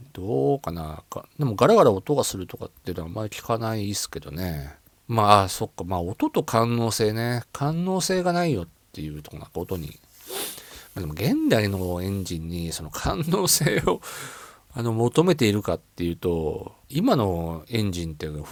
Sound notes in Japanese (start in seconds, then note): 10.2 鼻息